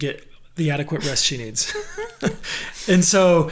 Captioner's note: laughing